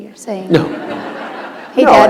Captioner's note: laughter